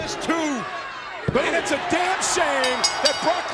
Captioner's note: bell rings